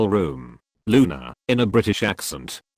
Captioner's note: in a British accent